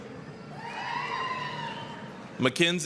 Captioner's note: applause, cheering